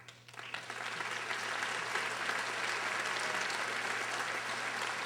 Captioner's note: audience applauding